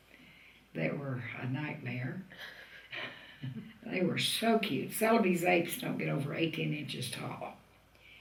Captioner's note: laughter